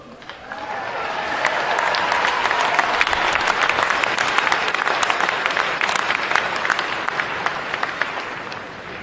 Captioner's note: applause